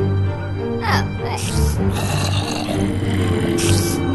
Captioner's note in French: bruits de monstres